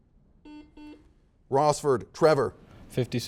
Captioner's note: series of beeps